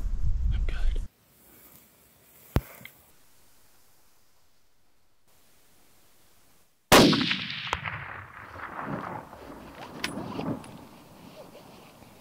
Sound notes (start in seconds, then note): 6.9 gunshot; 7.1 thud